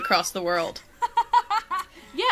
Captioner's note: laughs